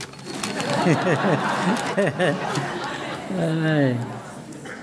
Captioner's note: audience laughing